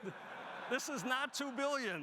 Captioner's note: audience laughing